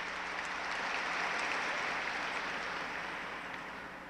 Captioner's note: applause